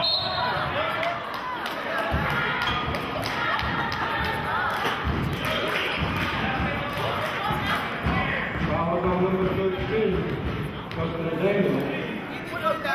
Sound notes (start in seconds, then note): 0.0 whistling; 4.4 chanting